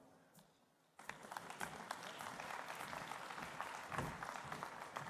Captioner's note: applause